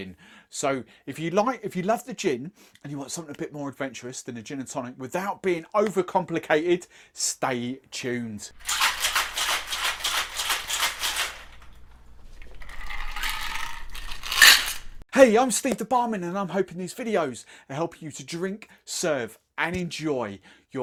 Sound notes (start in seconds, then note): 8.9 cocktail shaker rattling; 12.4 liquid pouring; 12.6 ice clinking in glass